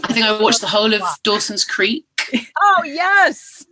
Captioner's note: laughter